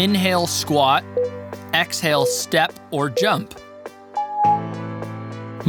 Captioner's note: timer beeping